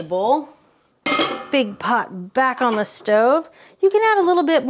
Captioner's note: pot clanging